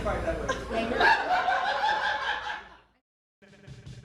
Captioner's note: laughter